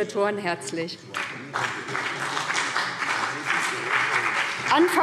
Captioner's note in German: Beifall BÜNDNIS 90/DIE GRÜNEN